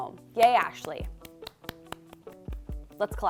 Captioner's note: clapping